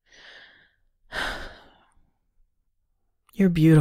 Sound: sighs softly

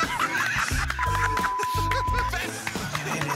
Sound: laughter

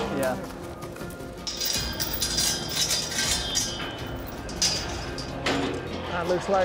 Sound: gate clanking

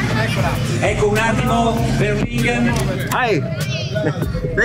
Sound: speaking foreign language

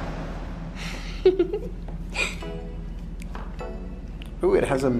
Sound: giggles

